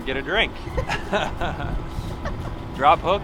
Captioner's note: laughing